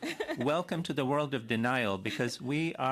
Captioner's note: laughter